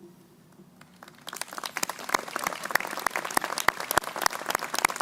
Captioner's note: crowd applauding